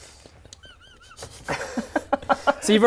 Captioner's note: disturbed laughter